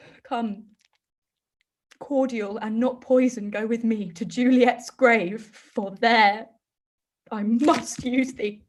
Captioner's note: none